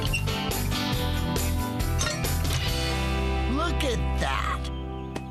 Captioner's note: clunk!